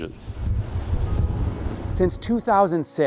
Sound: wind and rain

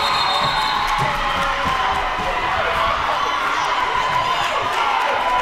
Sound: crowd goes wild

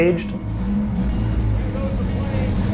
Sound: car engine revving

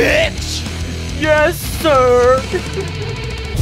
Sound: crying

